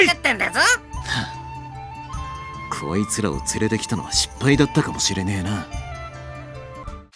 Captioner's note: sigh